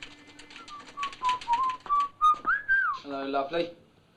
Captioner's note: typewriter chattering; whistling